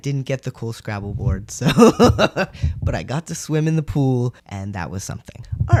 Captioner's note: laugh